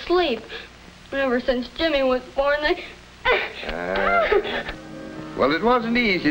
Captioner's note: sobs